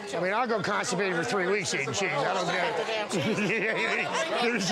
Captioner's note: laughing